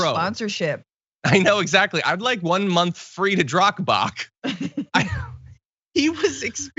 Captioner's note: laugh